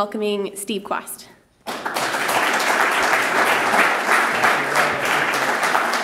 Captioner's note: applause